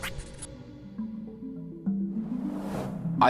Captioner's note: gust of wind